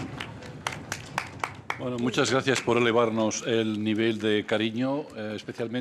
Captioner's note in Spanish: Aplausos